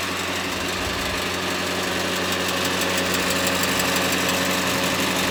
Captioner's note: diesel pump noise